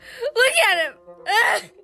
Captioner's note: sobs